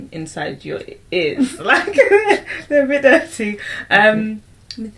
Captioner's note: laughs